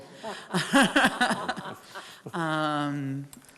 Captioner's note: laughs